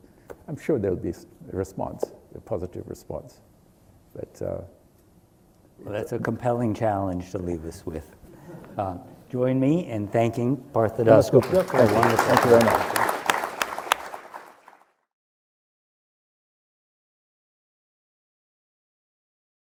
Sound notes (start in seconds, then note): 13.8 applause